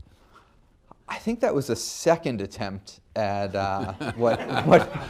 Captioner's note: laughter